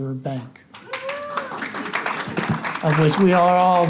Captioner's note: audience applauding